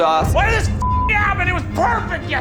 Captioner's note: beep